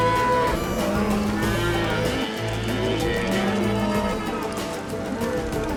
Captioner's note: cattle moo